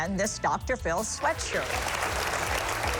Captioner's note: applause